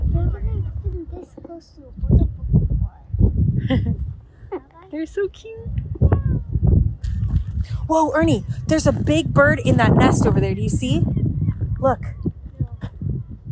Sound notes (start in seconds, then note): 3.6 chuckling